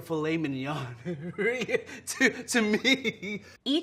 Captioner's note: laughing